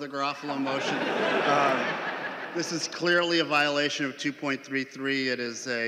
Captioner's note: laughing